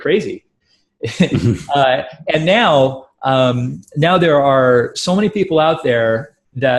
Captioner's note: chuckles